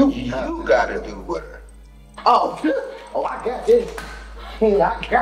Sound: phone ringing

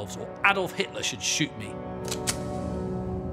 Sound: gun cocks

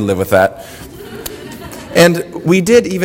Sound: audience laughter

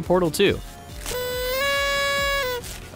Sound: sound of noise maker

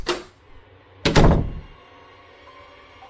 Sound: shuts door

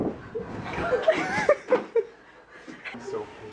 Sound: laughter

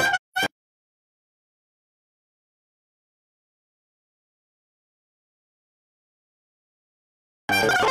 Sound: no sound

